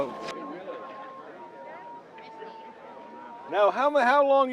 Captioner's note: soft flute music; people chattering